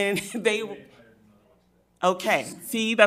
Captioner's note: speaks faintly